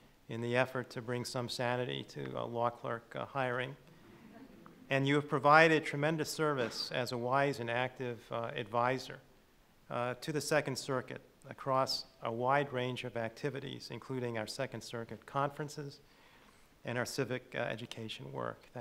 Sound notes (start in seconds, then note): 4.1 chuckles